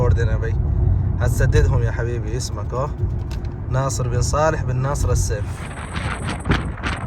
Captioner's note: Arabic